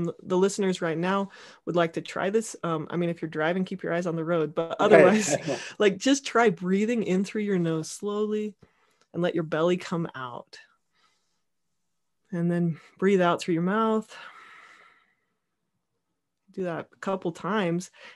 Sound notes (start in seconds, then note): 4.8 laughing